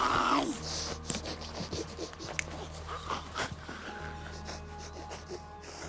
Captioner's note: heavy breathing